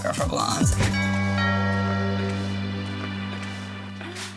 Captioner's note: chiming doorbell